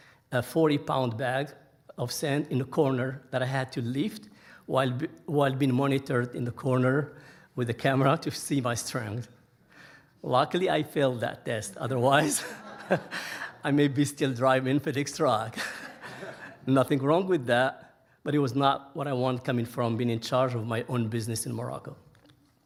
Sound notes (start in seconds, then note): 12.2 laughing; 15.5 audience laughing